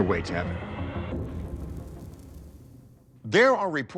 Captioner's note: suspenseful music; whoosh